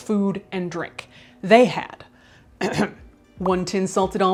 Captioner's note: clears throat